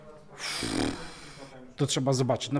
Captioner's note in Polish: odgłos Krakena